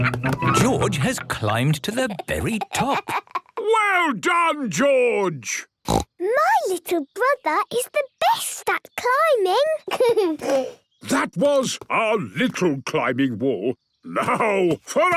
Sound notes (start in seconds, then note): 5.8 snorts; 9.8 giggles